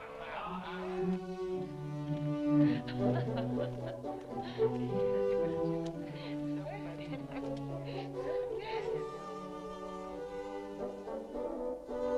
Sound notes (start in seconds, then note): 0.7 upbeat music; 2.7 captives chattering